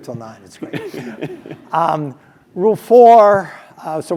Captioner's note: laugh